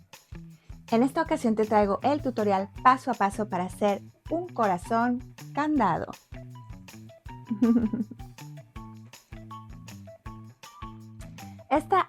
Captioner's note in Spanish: risas